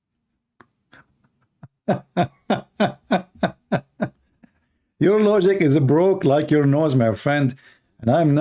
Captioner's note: Ketawa